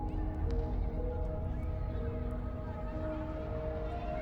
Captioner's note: gentle suspenseful music; voices whispering